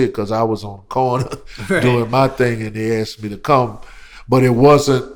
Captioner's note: laughter